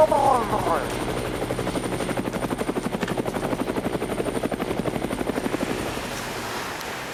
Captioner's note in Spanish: Sonido de hélices de helicóptero